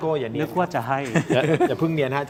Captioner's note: laughter